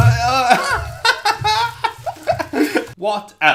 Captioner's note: laughs